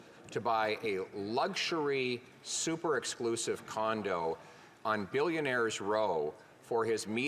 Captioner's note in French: voix de l'interprète